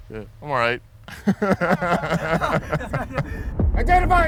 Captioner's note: people laugh